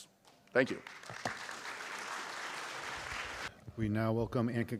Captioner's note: applause